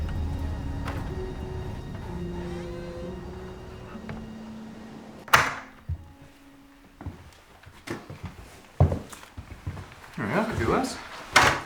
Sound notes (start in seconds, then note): 4.0 closes door; 5.4 opening door